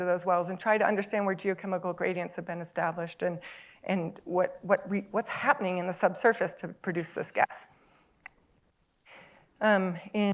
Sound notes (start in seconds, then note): none